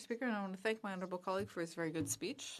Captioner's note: speaking French